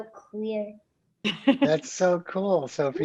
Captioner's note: laughs